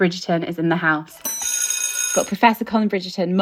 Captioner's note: bell ringing